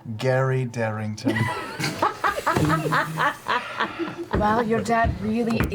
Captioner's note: all laugh